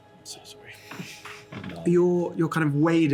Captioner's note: whispers